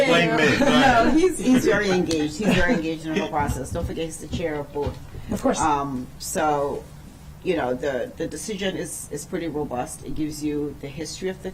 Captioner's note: laughter